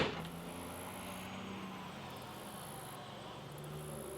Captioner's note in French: un camion passe, des criquets chantent